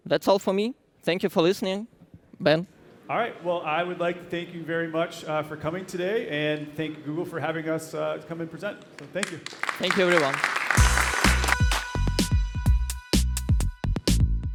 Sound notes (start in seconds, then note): 10.7 applause